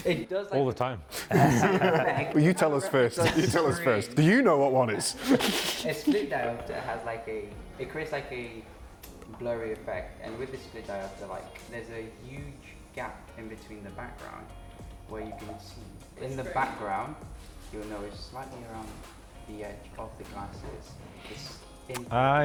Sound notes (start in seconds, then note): 1.1 all laughing; 5.5 laughing